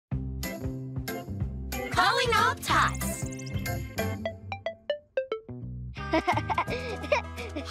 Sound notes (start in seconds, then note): 3.0 beeping; 6.1 giggling